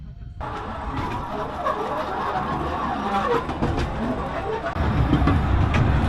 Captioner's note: the train is passing